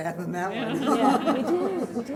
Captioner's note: laughter